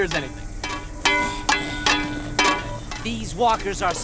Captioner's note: metal clanking